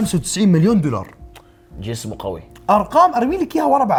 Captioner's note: tsks